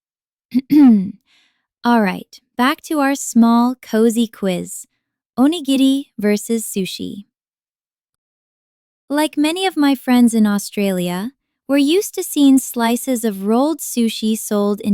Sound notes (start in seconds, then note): 0.5 clear throat